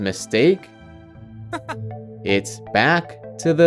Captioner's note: laughs